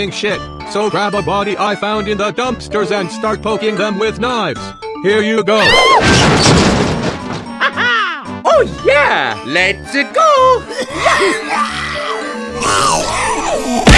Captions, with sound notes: So gRAb a BoDy I fOUnd In tHe dUmPstErs aNd sTaRt pOkIng tHEm wITh kNiVes! HeRe yOu gO SMG4:GIRL SCREAM Hah ha! Oh yeah! Let's-a go! *Zombie noises*